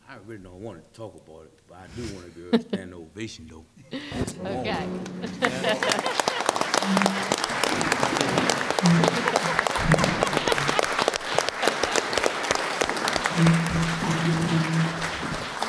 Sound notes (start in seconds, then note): 5.5 laughs; 6.5 applause